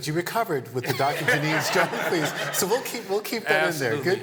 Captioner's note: laughter